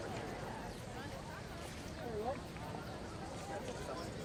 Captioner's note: people chat